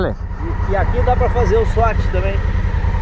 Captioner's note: brazilian babbling